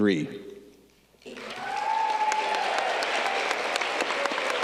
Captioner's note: audience cheering